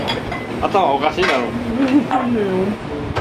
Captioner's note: laughs